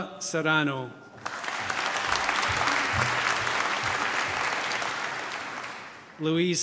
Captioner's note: applause